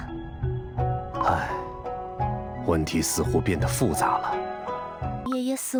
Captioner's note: sigh